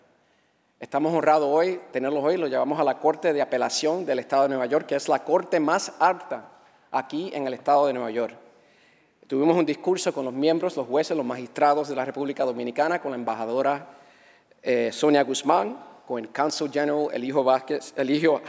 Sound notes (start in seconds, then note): 3.0 speaking spanish